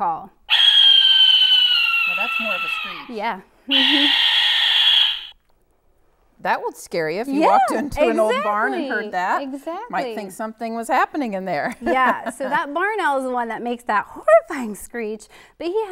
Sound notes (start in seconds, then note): 0.1 owl sounds